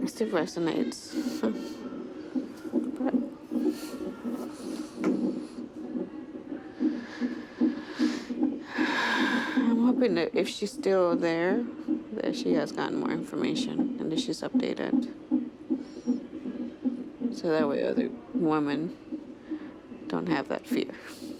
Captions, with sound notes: It still resonates. (laughs) (sighs) I am hoping that if she's still there, that she's got more information and that she's updated. So that way, other women don't have that fear.